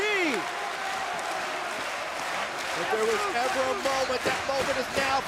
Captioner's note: crowd cheering